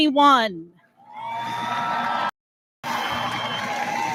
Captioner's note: audience lauds